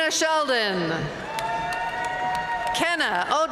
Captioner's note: audience cheering and applauding